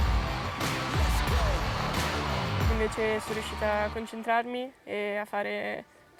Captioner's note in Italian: Applauso